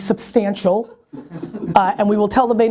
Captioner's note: people giggling